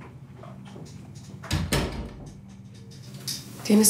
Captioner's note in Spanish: Sonido al cerrar la puerta